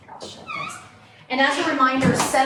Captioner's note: door closes